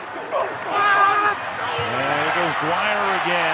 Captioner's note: screams